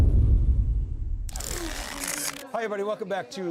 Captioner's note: camera shuttering loudly